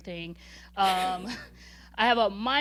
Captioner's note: laughing